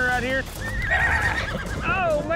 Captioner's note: water slashes; horse neighs